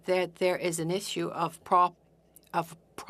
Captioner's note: speaking French